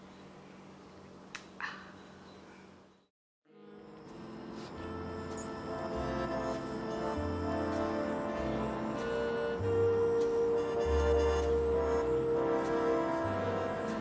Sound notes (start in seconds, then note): 1.2 breath out in satisfaction